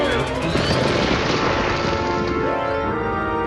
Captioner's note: crunching